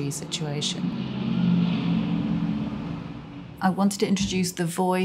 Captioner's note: airplane engines roaring